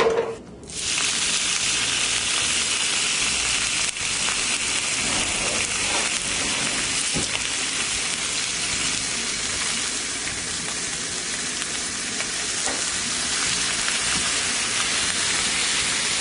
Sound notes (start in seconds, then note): 0.0 dishes clattering; 1.2 bacon sizzling